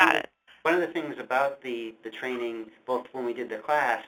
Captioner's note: voiceover